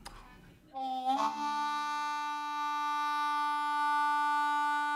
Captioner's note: horn blaring